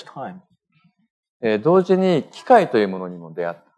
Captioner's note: speaking japanese